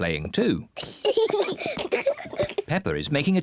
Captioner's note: both giggling